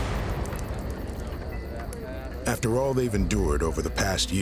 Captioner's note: fire crackling